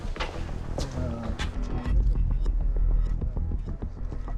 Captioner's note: distant chatter